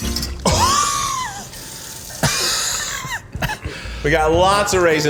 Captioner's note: coughing